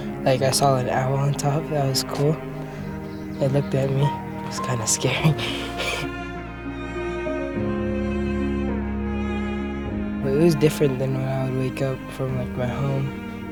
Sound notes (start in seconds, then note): 5.1 laughs